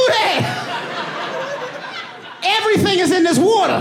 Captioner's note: audience laughing